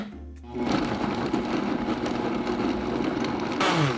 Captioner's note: blending running